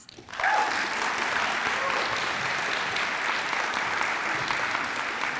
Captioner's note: audience applauds and cheers